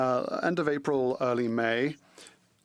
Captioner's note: speaking French